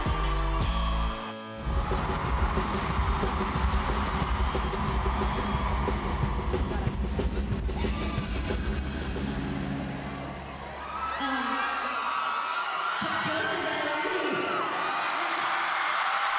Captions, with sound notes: (drum beats) (crowd cheering) - Kelsea Ballerini?